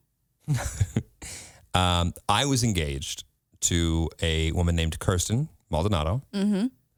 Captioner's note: laughs